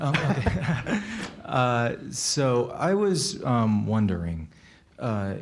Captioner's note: speaker laughs